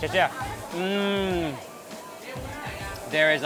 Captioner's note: woman speaks in a foreign language; speaks in a foreign language; moans